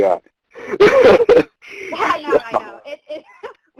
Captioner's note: both laughing